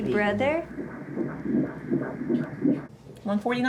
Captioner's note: heartbeat thumps over ultrasound